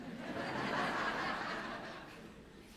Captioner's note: laughter